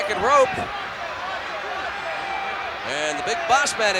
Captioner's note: applause